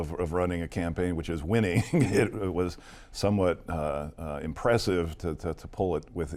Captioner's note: laughs